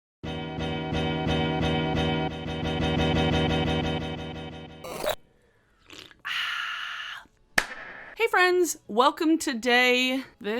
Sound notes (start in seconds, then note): 0.3 upbeat music; 5.7 drink sipping; 7.3 claps